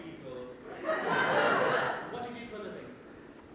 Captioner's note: audience laughter